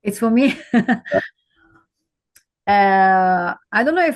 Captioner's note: laughing